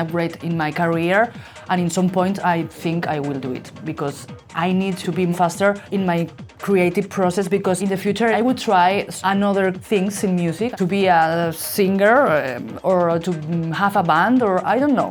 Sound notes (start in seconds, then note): none